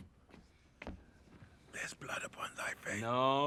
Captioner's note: whispering